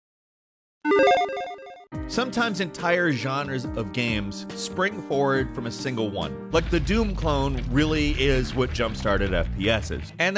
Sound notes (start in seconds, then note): 0.9 logo beeps